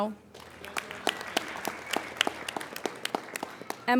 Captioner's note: applauding